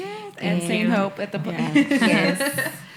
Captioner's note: laughs